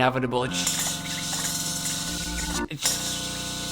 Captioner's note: buzzing noise